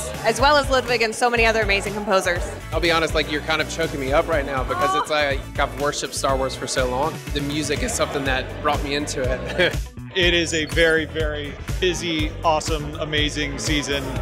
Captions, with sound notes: as well as Ludwig and so many other amazing composers. - I'll be honest. Like, you're kind of choking me up right now because it's like, I've worshipped Star Wars for so long. The music is something that brought me into it. [chuckles] - It is a very, very busy, awesome, amazing season